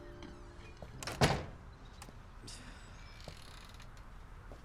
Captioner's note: door slamming shut